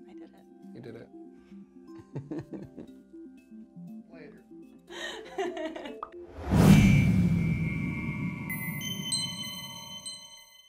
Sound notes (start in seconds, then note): 1.9 both chuckling; 2.7 light music; 6.4 futuristic music